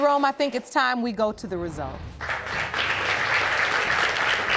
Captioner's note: audience applauding